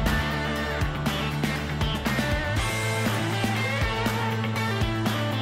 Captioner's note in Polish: Aplauz